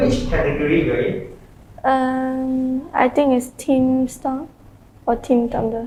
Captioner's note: confused